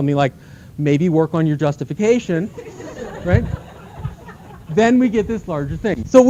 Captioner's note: laughter